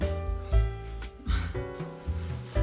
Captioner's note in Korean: 스읍